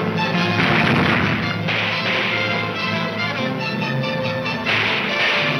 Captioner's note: gunshots banging